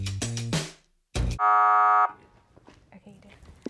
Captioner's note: upbeat music; buzzer rings